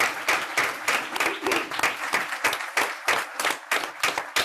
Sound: group applauds

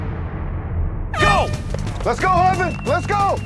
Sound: horn blows

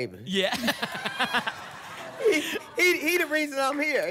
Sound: laughter

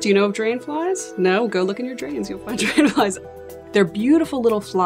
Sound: laughs

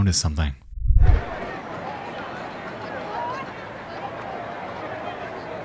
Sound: crowd chattering

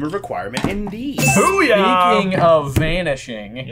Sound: bell ringing

